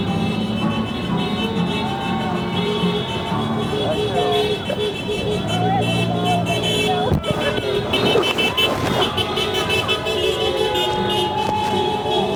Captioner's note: applause